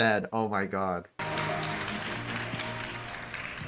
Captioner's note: lukewarm applause